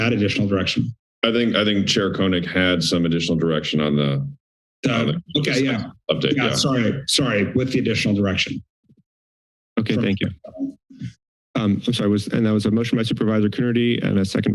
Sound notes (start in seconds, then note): 8.9 silence